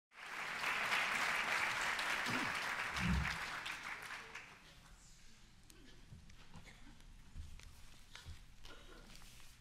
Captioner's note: applause